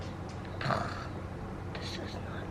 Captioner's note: exasperated sigh